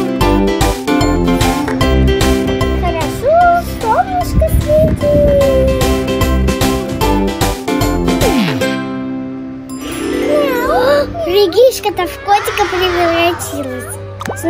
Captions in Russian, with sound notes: Хорошо! Солнышко светит! [Волшебный звук] Регишка то в котика превратилась!